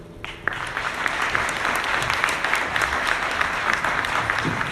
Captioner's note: audience clapping